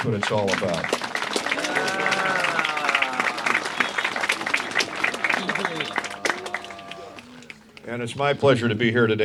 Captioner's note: applause